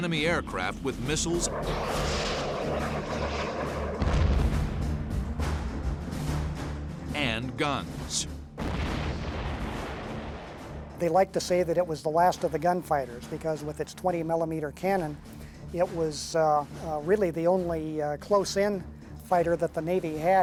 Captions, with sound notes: aircraft with missiles. [jet engine noises] [explosion] And guns. [explosion] They like to say that it was the last of the gunfighters because with its 20 millimeter cannon, it was really the only close-in fighter that the Navy had